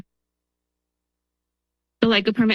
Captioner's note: pause